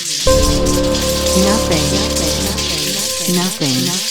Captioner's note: electricity crackling; voice echoing